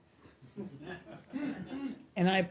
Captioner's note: laughter